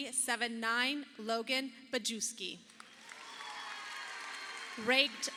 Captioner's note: audience applauding